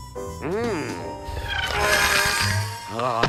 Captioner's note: fast whirring